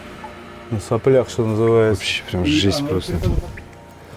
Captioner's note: sarcasm